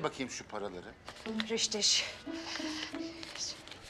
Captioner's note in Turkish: Almanca konuşma